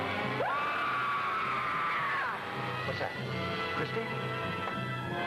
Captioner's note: Christie screams